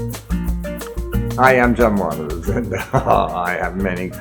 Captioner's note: lively music; laughs